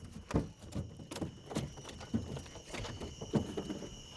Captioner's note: thumping